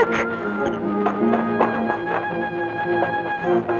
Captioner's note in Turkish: Koşan ayak sesleri